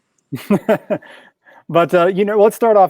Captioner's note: laughs